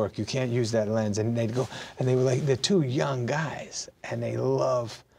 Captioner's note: none